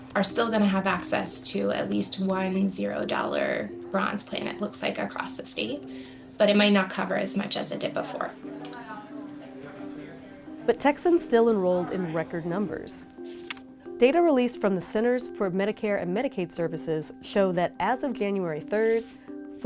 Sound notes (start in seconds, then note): 8.5 staff and enrollees chattering